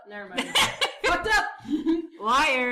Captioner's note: laughing loudly